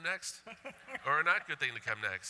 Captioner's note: laughter